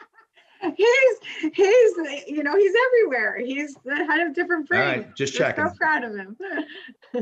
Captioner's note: laughs